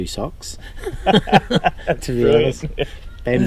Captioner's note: laughter